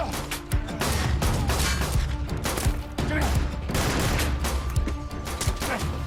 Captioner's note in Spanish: Disparos